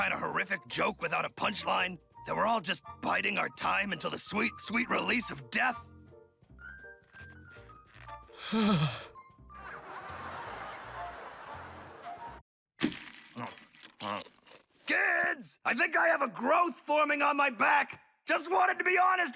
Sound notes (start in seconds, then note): 9.5 audibly shudders